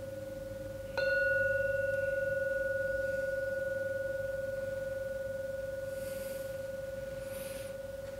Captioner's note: ringing